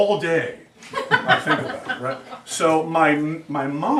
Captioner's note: students laugh